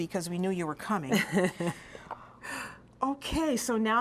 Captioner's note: laughter